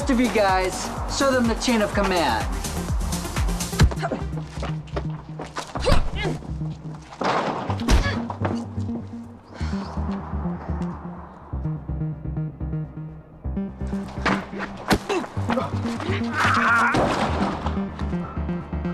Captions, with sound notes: - The rest of you guys, show them the chain of command. (body thudding) (Riley grunting)